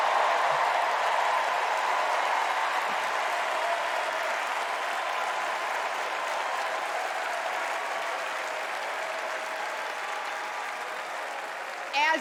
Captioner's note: cheers and applause